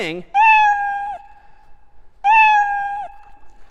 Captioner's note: meowing